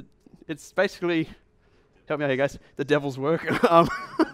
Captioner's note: laughs